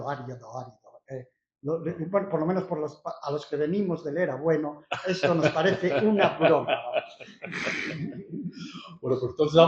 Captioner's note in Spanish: risas